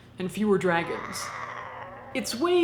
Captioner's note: dragon screaming